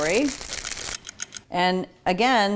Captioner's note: clock ticks